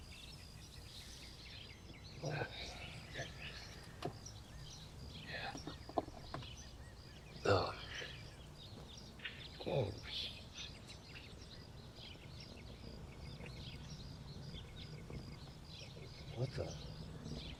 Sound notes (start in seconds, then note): 11.5 birds tweet